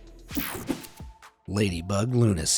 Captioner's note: air whooshing